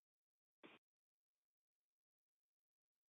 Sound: silence

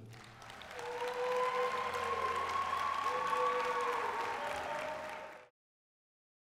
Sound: applause, cheering

